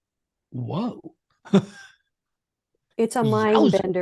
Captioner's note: laughing